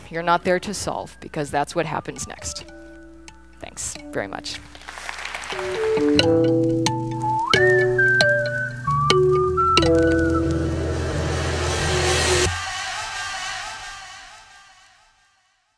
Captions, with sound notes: You're not there to solve, because that's what happens next. Thanks very much. (audience applauds) (electronic music)